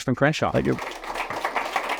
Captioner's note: applause